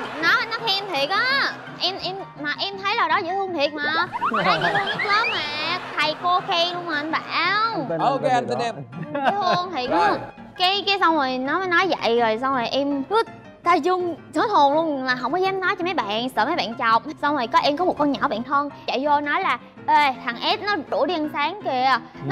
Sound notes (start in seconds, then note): 7.3 laughing